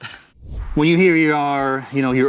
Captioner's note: air whooshing